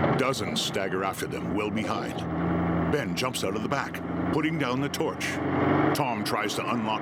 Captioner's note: engine idling